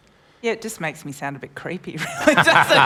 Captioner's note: laughter